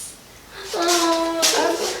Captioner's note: sobs